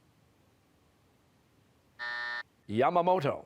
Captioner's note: buzzer